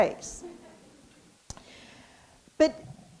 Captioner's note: audience laughs